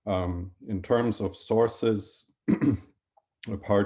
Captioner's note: clears throat